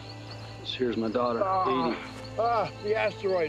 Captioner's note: moans